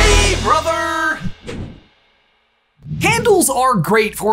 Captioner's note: image whooshing